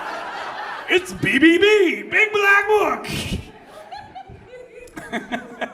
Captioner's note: laughs